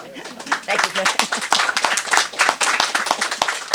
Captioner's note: applause